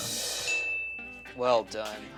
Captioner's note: bell chimes